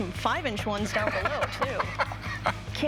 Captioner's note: laughter